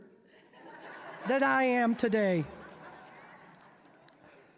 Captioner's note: audience laughing